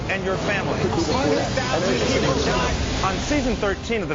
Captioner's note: newscasters reporting